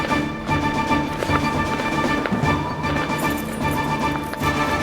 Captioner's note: boots padding; intense music; supplies clinking